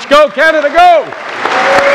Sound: cheers & applause

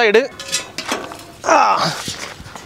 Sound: grunting

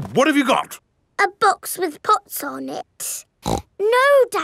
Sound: snorts

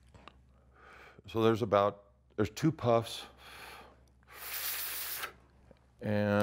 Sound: inhales deeply; exhales loudly

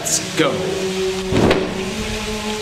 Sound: cape swooshes

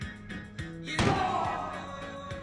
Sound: yells; thud

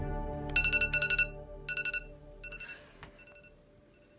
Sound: alarm ringing

